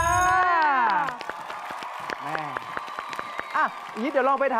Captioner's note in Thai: เสียงเอฟเฟกต์ปรบมือ